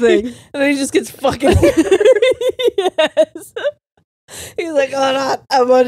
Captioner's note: all laughing